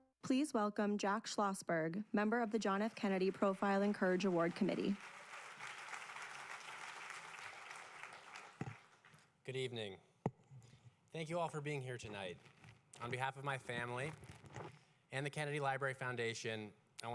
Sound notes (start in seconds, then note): 5.8 applause